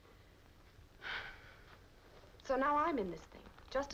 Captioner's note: sighing